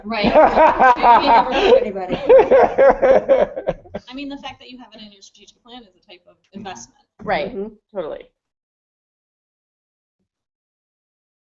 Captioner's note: laughter